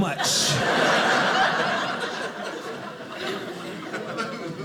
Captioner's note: audience laughing